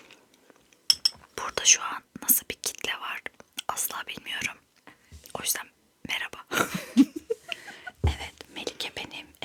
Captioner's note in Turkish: kahkaha